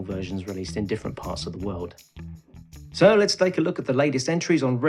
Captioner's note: cheesy DJ Voice